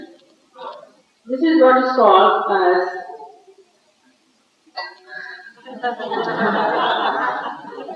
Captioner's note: laughter